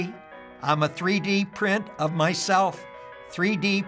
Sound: speaking robotically

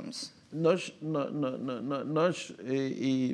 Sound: speaking portuguese

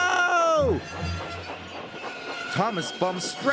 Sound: brakes Squealing

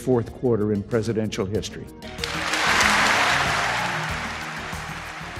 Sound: crowd applauds

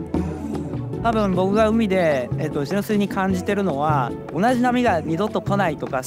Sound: speaking in Japanese

